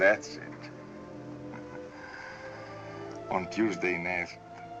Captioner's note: chuckles softly